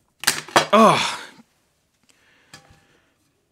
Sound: groans

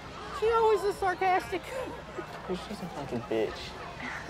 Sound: laughs

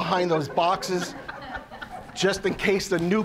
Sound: audience laughing

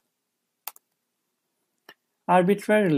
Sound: keyboard clicks

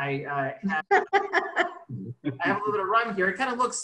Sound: laughs

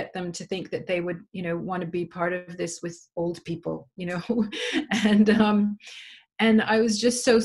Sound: laughs

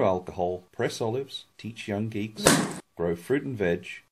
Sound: pop

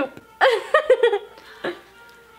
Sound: laughing

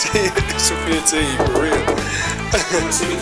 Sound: Ned knocks

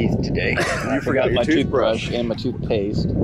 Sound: brothers laughing

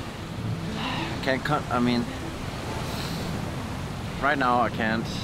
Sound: sniffs

